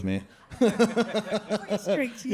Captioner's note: all laughing